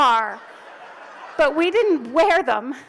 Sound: audience laughs

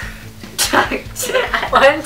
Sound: laughs

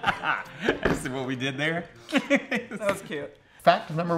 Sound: both laugh; laughs

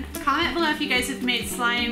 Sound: none

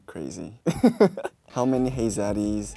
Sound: he laughs

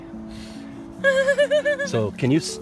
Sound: unhinged female whimpering

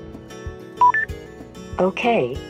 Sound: system beeps

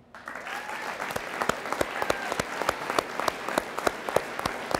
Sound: audience applauds

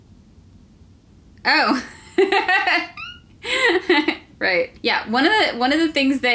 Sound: laughter

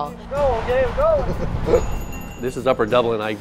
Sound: laugh

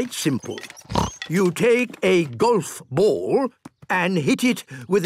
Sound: snort

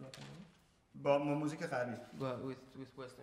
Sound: speaking in farsi

